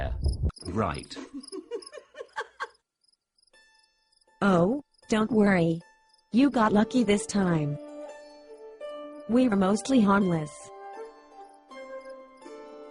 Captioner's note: giggle